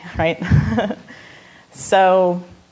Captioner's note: laughing